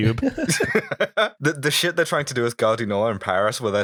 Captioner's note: laughter